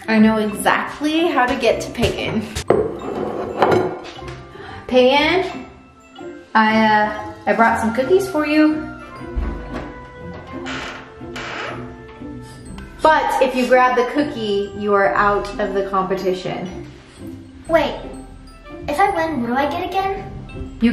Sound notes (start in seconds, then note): 8.9 soft music; 11.0 door opening